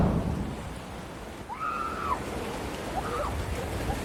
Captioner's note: excited screaming